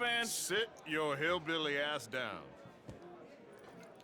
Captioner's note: none